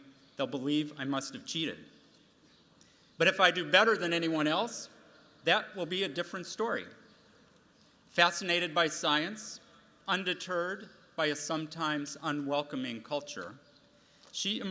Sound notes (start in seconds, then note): none